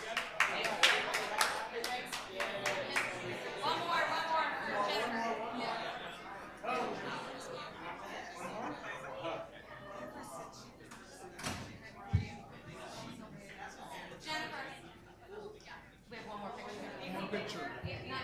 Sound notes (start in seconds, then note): 0.0 crowd applauds; 6.6 faint voices chattering